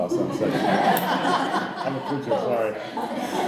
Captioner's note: audience laughing